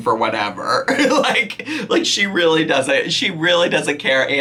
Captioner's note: laughing